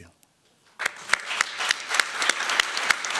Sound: applause

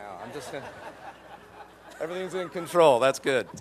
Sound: laughter

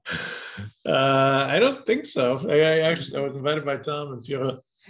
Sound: laughing

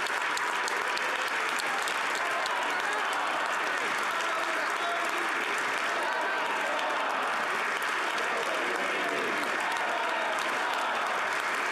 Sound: applause

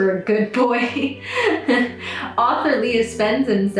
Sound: laughs

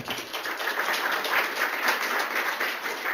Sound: applause

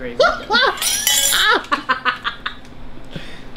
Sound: laughing

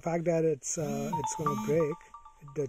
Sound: phone beeps

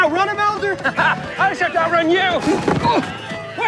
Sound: Willard laughs

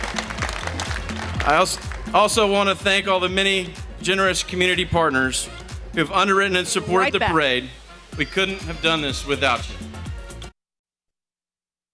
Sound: applause

